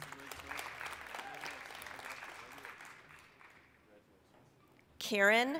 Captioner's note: applause